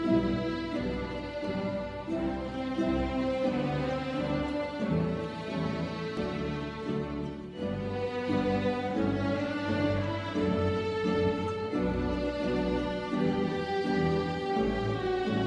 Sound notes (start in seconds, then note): none